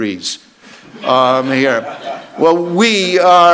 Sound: audience laughs

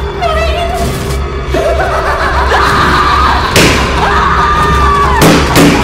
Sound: popping; screaming; laughing

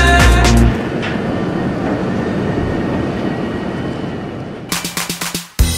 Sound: truck sounds; clapping

